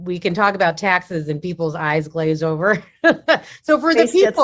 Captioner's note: laughs